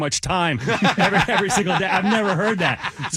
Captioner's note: laughing